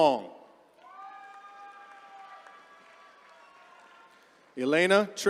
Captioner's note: attendees cheering